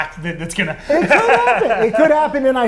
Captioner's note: laughs